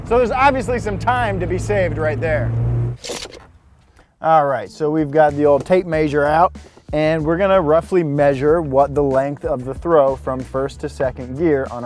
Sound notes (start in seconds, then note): 3.0 tape measure snaps